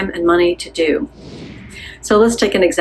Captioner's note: air whooshing